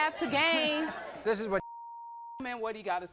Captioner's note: beep